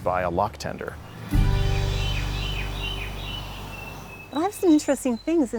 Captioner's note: birds chirping